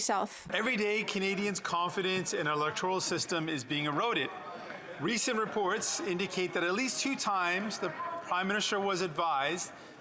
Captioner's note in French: voix de l'interprète